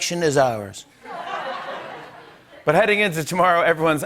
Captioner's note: laughter